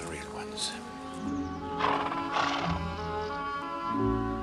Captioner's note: Kuda mendengus